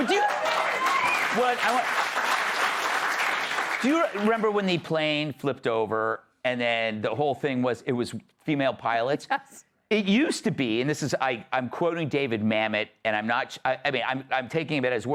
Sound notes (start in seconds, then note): 4.4 cheering and applause